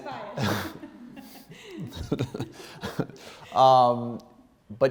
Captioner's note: both laughing